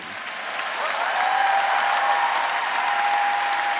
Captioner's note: graduates cheering; graduates, audience, and faculty applauding